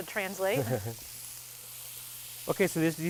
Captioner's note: laughing